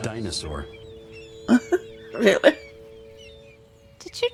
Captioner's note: chuckles